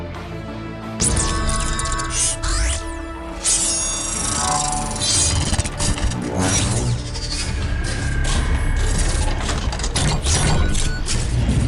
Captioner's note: mechanical Sounds